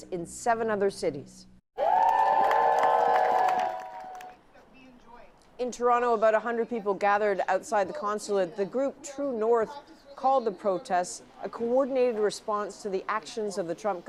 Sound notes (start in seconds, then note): 4.3 cheers and Applause